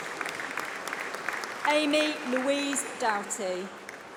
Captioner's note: applause